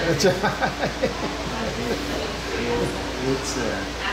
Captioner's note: laughing